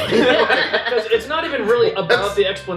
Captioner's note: laughter